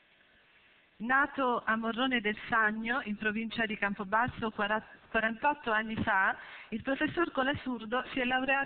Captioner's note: Italian